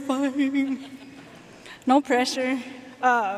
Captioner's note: audience laughing